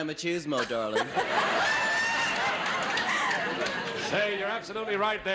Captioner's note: audience laughs